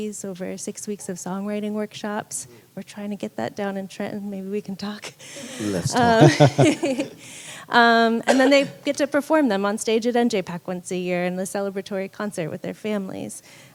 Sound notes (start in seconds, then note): 5.0 laughing